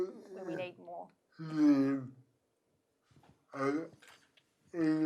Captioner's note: murmurs